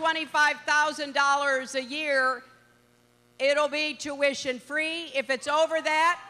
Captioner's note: cheering